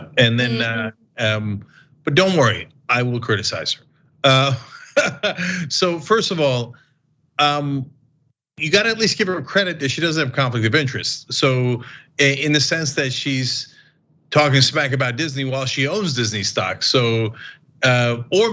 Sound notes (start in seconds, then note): 4.3 laugh